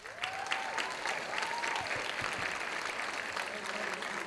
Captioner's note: audience applauding